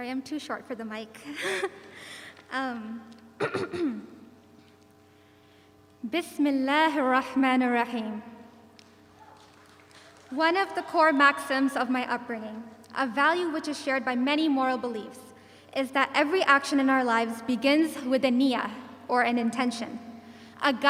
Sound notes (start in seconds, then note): 1.2 chuckles; 3.4 clears throat; 6.4 speaking in foreign language